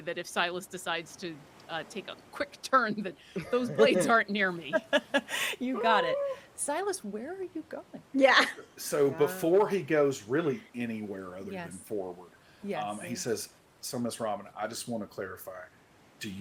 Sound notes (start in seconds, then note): 4.6 person laughing